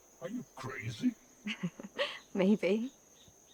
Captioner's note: Tilly giggling